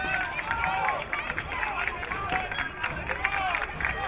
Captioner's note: crowd cheering